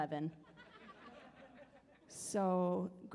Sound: audience laughs

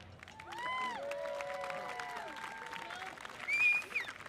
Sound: audience applauding

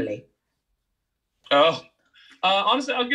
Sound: laughs

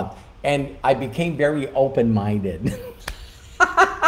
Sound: laughing

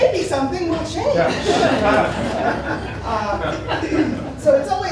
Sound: laughter

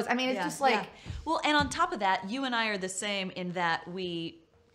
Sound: thumps

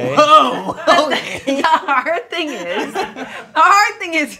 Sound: laughing; group laughing; laughs

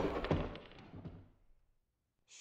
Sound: gunshot; thud

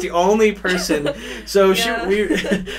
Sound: laughs

